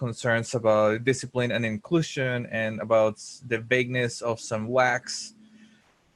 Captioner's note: voice muffled